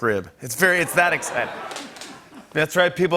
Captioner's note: laughter